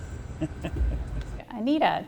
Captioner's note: laughing